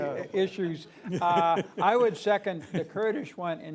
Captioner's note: laughter